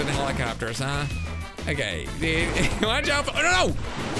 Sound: laughs

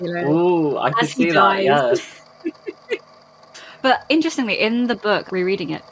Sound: laughs

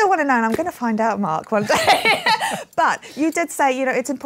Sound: laughs

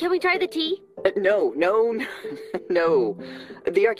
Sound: chuckles

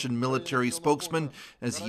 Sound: speaking Foreign Language

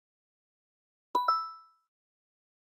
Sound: ba-ding

